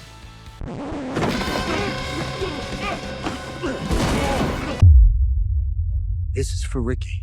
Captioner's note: record scratch; dramatic music; grunting